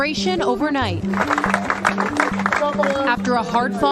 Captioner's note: people applauding